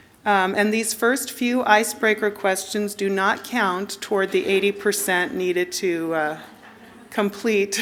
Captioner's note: laughter